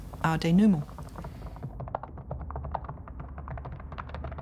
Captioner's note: rowling typing